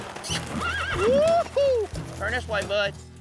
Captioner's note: horse neighs